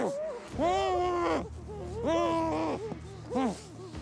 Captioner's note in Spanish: quejidos reprimidos